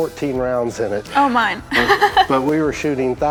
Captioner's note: laughs